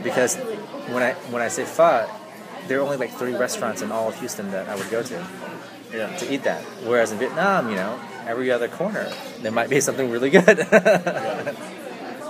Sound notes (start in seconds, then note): 10.3 laughs